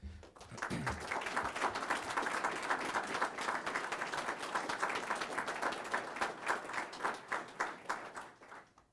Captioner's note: clapping